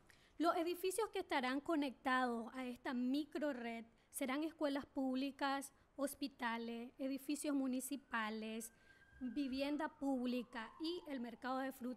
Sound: speaking spanish

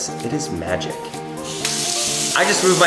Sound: water splashing

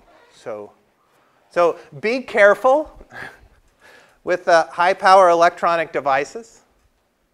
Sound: laugh

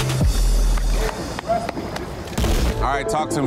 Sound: hand slapping

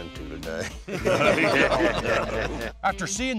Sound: laughter

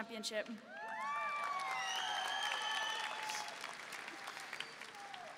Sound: audience cheering

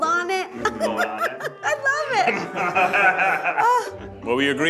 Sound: laughs

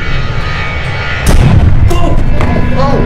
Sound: bomb explodes

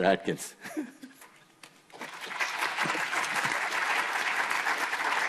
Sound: audience applauding

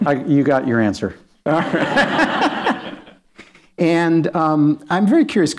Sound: laughter

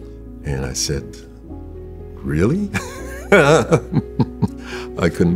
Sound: laughs

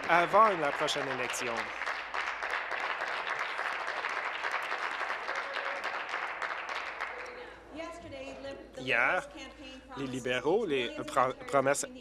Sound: applause

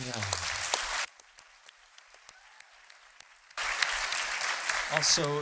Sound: applause

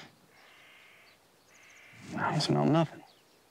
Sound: crow laugh

